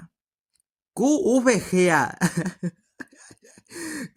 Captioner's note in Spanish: risitas